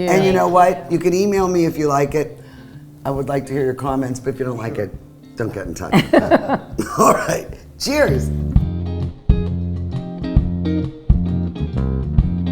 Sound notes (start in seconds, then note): 5.9 laughs; 5.9 group laughs; 8.9 slow jazz music